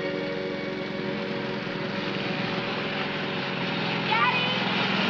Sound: motor humming

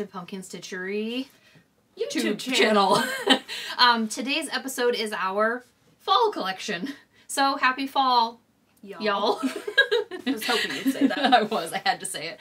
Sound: in unison-laughs

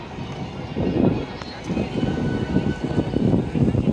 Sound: wind blows

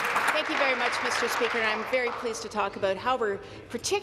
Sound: applause

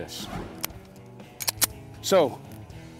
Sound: gun clicks

